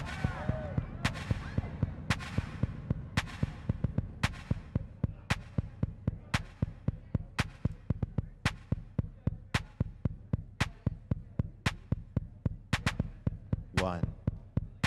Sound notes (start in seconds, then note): 1.7 audience cheering